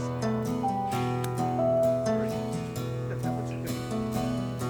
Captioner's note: locket clicking